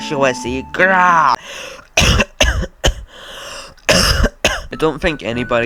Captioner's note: cough